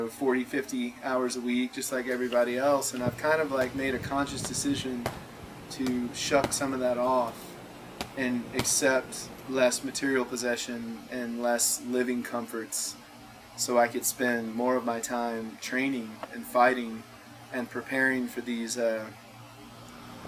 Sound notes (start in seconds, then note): none